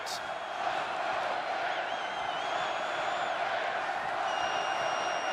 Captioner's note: crowd chanting